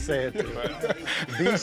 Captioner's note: laughs